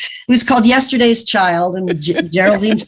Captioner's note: laughs